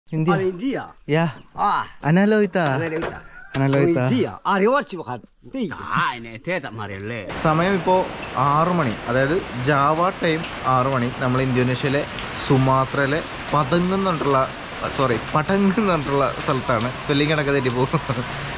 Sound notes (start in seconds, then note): 3.3 men speaking in native dialect; 17.7 laughing